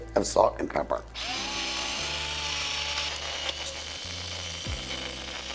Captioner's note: grinder whirring